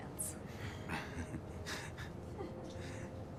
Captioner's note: chuckles